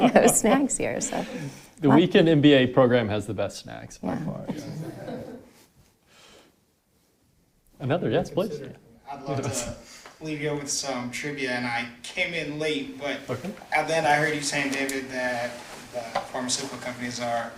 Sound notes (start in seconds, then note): 4.4 audience laughing